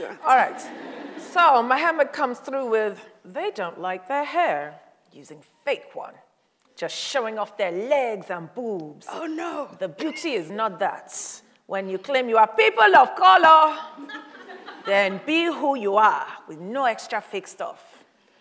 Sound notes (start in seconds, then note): 0.0 audience laughs; 13.9 audience laughs